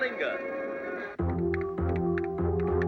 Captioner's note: keyboard clicking